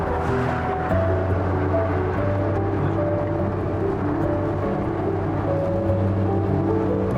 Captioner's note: engine whirling; soft music